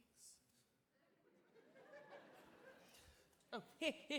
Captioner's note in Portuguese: audience laughing